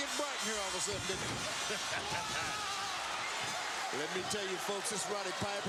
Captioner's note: laugh